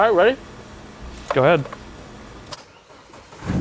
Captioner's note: pat